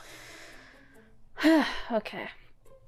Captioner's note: sigh